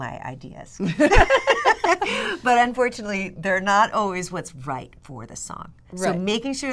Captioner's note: laughter